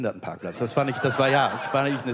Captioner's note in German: Lachen